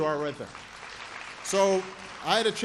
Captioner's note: applause